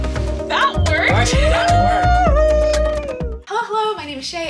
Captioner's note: cheering